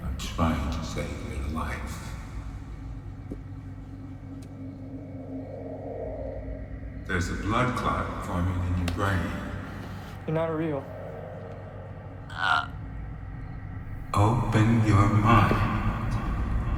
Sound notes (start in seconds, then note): 12.5 Mark groans